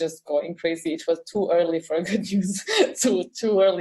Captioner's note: laugh